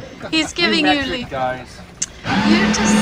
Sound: speaking foreign language

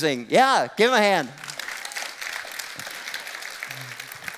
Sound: applause

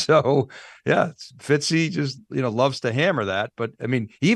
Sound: laughs

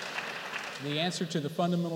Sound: applause

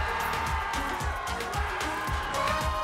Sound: screaming

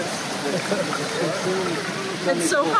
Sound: chuckles

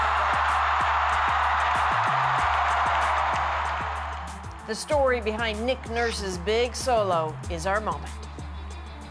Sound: cheers and Applause

